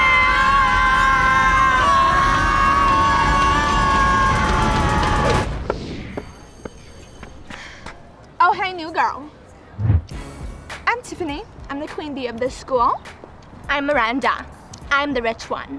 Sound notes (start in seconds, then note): 0.0 screaming; 5.6 bell ringing